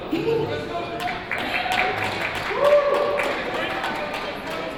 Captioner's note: audience cheering